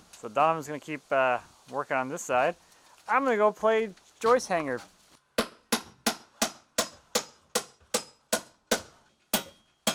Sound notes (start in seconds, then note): 5.8 hammer banging